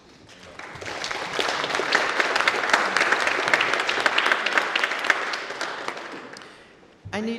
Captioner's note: applause